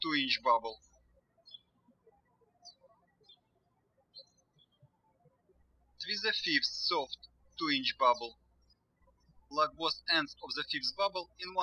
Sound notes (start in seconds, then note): 2.1 birds chirping